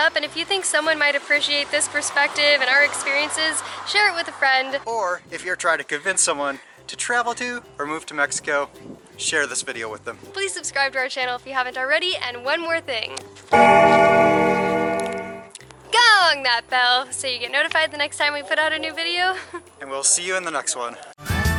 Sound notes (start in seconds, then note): 13.5 bell rings